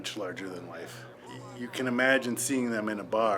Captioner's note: TV playing